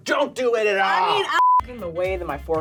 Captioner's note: electronic bleep